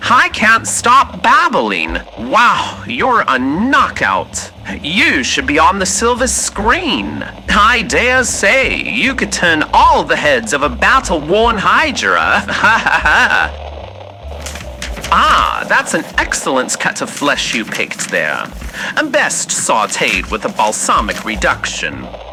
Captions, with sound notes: I can't stop babbling! Wow, you're a knockout! You should be on the silver screen! I dare say, you could turn all the heads of a battle-worn Hydra! (butcher wrapping meat in paper fx) Ah, that's an excellent cut of flesh you picked there! Best sautéed with a Balsamic reduction.